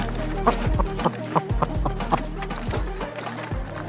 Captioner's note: laughing